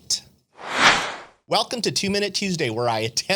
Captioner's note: air whooshing